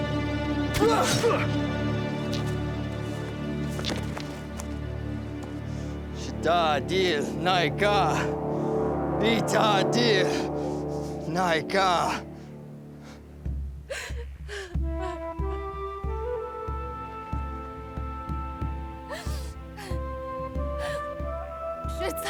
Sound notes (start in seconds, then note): 0.3 speaking native language; 0.7 groans; 7.4 speaking native language; 15.0 crying